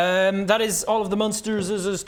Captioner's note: none